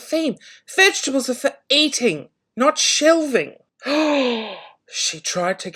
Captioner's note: gasps